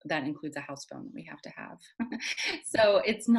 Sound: laughs

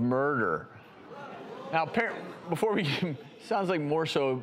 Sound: audience reacts

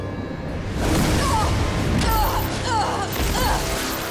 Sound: groaning

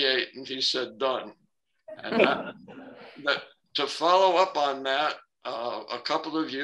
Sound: laughter

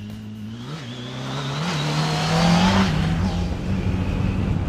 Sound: engine revving

